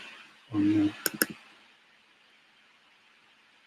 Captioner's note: click